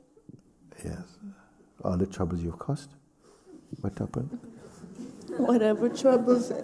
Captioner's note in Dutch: gelach